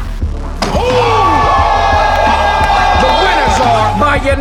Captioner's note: all cheering